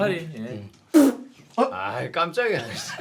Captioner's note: fart